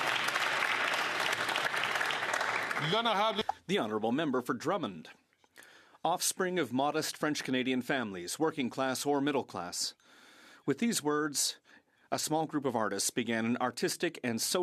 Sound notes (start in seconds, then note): 2.9 some Applause